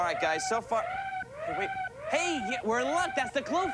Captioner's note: siren wailing